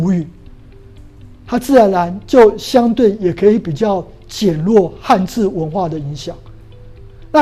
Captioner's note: chinese words